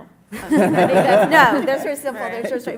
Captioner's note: laughter